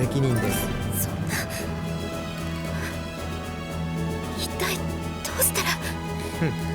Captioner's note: panicked breath